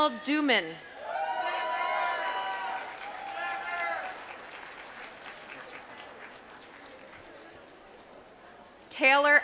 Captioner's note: applause